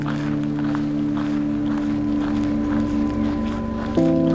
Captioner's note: feet clack